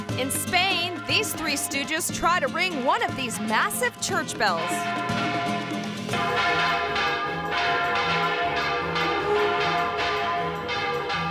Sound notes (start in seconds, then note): 4.3 bells tolling